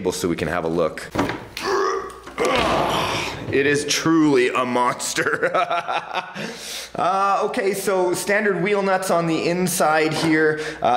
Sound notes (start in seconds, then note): 1.6 grunting; 5.2 laughing